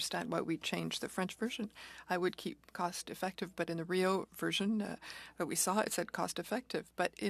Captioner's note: speaking French